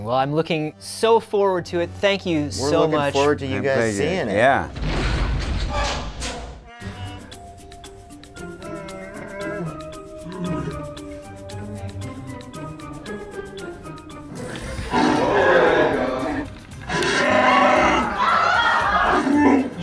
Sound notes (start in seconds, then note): 10.3 Chewbacca roar; 14.4 Chewbacca roar; 17.0 screams